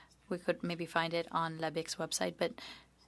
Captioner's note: speaking French